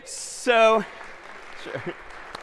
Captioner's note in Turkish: alkiş